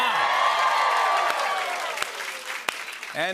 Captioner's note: cheers and applause